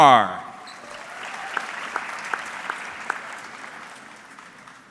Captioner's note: audience clapping